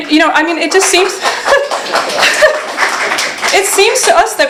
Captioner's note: laughter